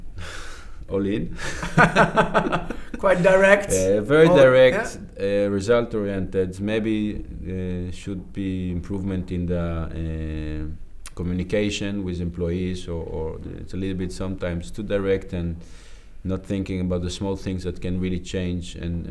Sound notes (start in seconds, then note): 1.4 both laugh; 1.4 laughs